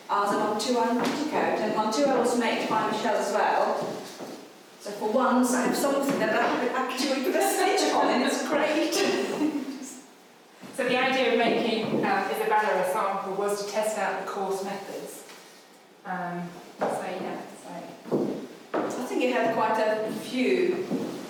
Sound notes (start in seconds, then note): 9.0 laughing